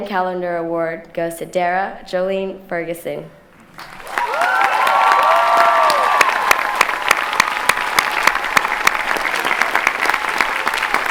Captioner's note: clapping